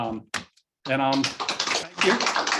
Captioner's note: applause